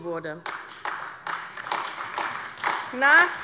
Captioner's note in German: Beifall AfD